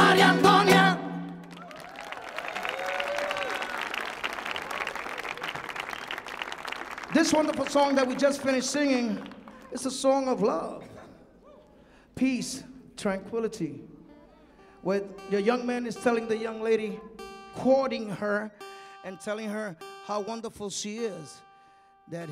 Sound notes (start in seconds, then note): 1.2 audience clapping; 1.4 audience cheering